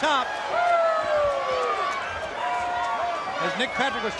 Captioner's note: crowd cheering